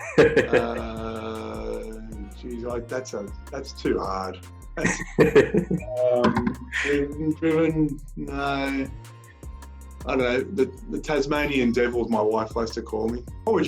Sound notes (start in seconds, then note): 0.0 laughing; 4.8 laughter